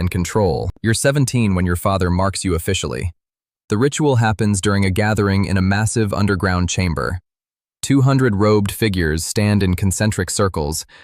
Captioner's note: nervous